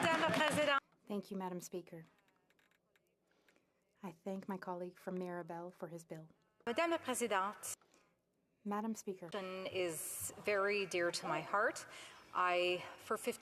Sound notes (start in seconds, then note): 3.2 speaking French